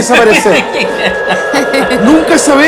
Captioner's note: laughs